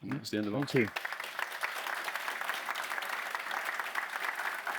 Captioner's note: applause